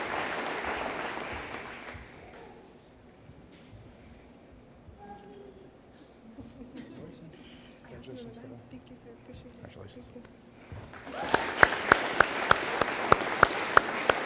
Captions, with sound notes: - Thank you Sir, appreciated. (audience applauding)